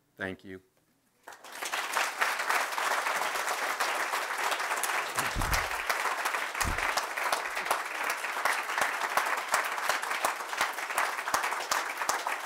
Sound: applause

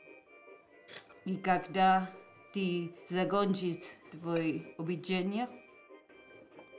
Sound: upbeat instrumental music; speaking in a foreign language

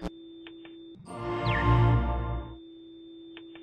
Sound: tone; tv static noise

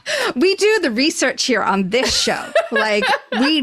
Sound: laughs

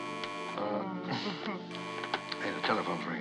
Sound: buzzing; moaning, Giggling; buzzing Continues

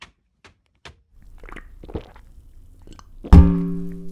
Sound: slurp, Gulp; boing

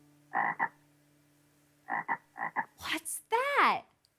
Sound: frog croaking

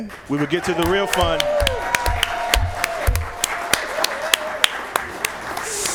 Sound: applause

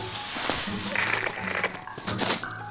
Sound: static cackles

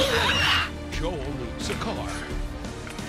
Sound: laugh

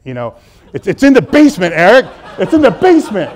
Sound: audience laughing

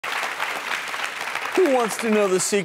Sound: clapping

